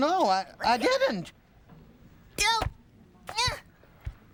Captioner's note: yells